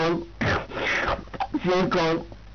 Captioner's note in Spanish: se suena los mocos